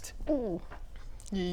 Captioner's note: gulp